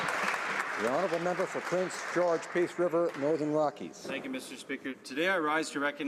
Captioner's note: applause